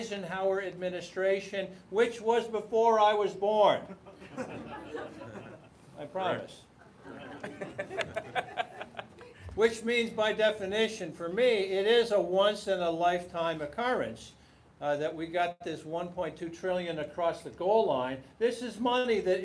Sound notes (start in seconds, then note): 6.8 laughter